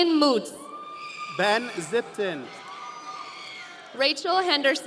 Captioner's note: audience cheering